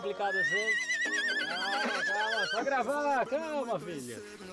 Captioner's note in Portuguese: continua relinchando